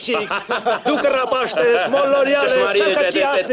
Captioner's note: haha